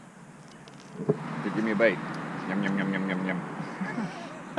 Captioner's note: laughing